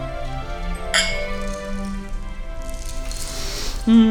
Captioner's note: glasses clink; Zombie sniffs food